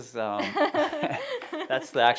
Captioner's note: laughter